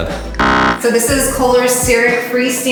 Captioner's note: buzz